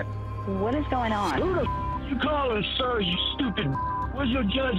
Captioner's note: caller speaking